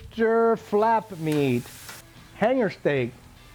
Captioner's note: sizzling